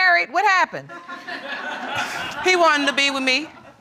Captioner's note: audience laughing